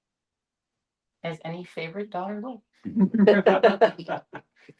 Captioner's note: laughter